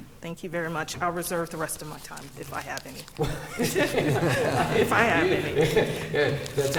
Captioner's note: laughter